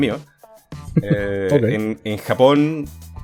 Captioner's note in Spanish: risas